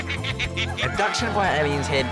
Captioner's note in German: Lachen